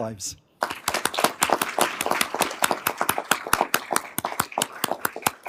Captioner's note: everyone applauding